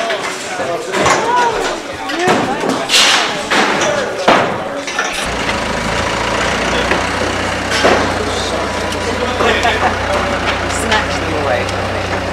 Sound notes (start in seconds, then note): 4.8 engine noises